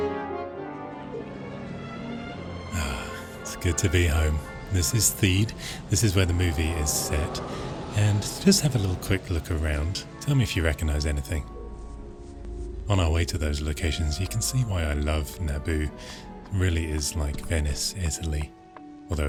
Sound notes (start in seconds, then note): 3.0 exclaims